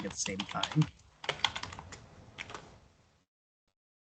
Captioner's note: typing sounds